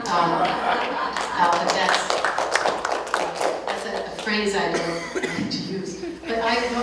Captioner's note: clapping